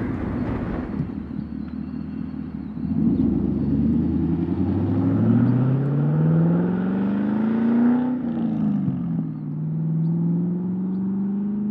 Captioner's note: big block car accelerates